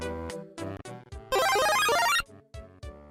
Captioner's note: 'Super Mario Brothers' Mushroom Growth Noise FX